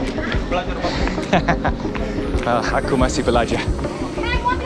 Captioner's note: laughing